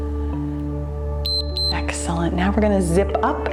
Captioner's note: timer beeps